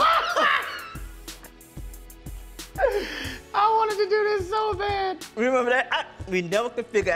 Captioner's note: laughs uproariously